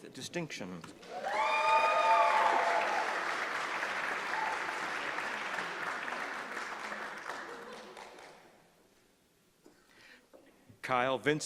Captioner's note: applause